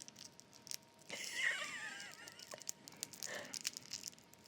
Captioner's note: laughs